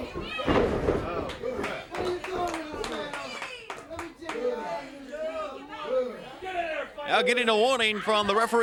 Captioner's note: crowd chatter